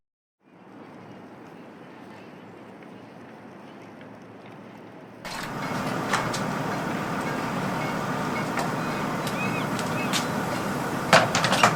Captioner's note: sound of urban activities in the background